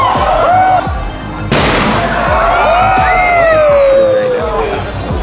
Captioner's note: sledgehammer knocks; sledgehammer pounds